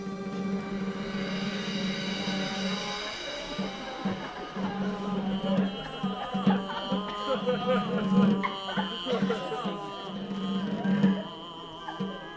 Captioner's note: chanting